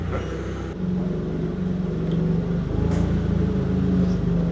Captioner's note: machine whirring